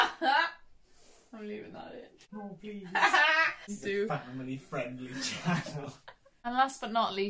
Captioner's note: laughs